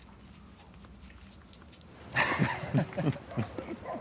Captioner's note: laughs